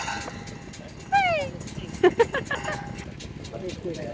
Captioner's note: laughing